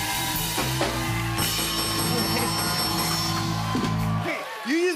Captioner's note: dinging